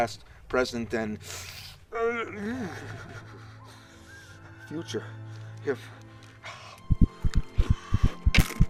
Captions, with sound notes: present, and... future. [tense music] [intense heart beats]